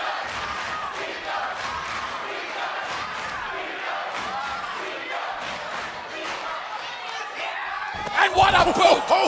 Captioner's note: crowd cheering